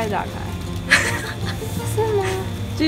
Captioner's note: laughing